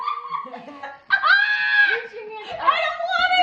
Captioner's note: squeals